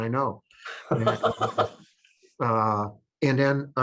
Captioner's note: chuckles